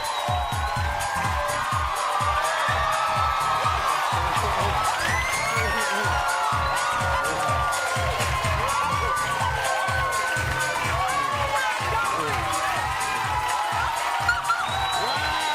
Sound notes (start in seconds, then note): 0.3 bass-heavy music; 3.6 audience cheering and applauding